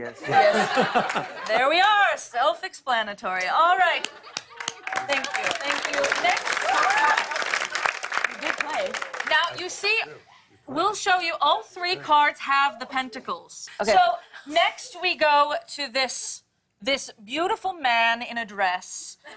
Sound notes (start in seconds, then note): 4.3 applause